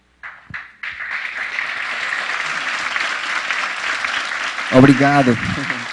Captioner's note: applause